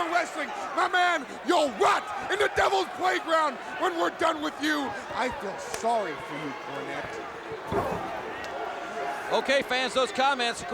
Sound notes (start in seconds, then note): 6.2 crowd chatter